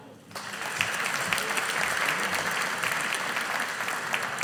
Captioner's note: audience applauding